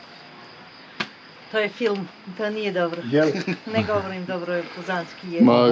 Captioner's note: laughs